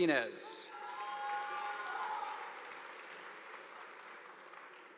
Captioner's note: audience applauding